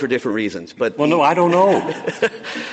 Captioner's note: laughter